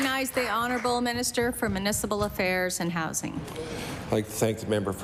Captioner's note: some Applause